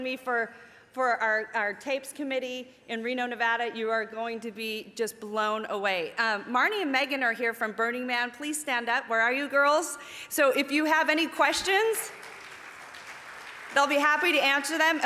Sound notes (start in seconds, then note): 11.9 audience applauding